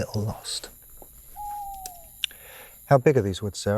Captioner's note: owl hooting